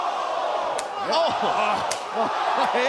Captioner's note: crowd chatter